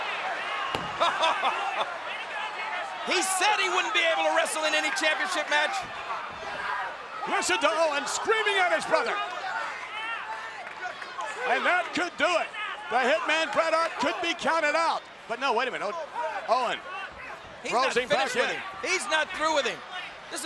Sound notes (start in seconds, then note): 1.3 Jerry laughs